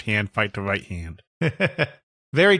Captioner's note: chuckles